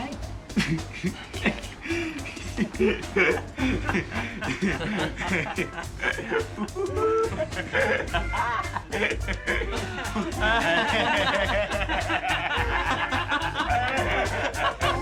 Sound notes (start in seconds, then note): 3.0 all laughing; 3.0 upbeat music